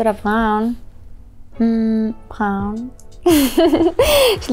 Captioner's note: laughs